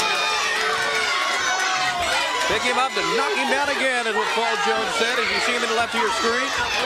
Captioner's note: crowd chatter